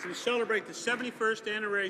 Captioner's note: speaking French